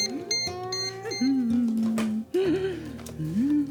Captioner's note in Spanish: Sonido de Bips al teclear